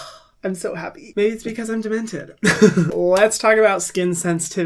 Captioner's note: sighs; laughs